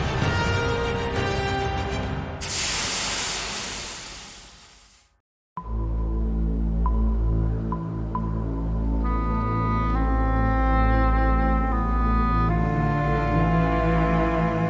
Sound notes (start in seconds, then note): 2.4 steam hissing; 5.9 mysterious music